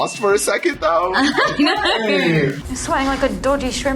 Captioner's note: laughs